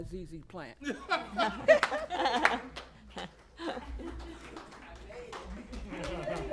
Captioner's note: laughter